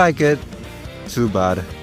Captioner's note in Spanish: Tsk